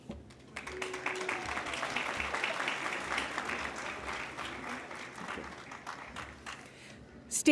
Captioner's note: applause